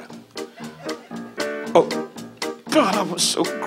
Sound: audience laughs

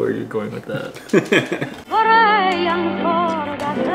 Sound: laughs

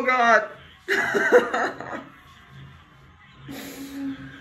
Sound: laughs

